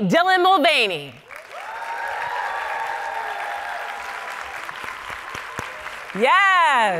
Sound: audience cheering and clapping

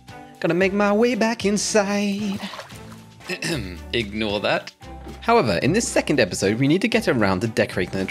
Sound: cough

